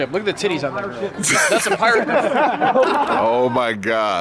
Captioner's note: laughs